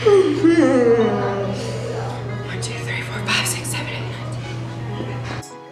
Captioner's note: mumbling to self; whispers